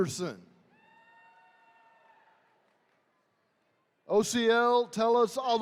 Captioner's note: attendees cheering